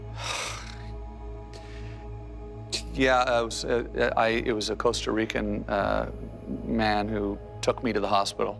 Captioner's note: sighs